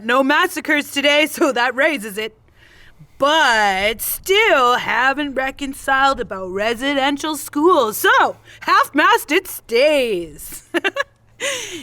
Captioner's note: chuckles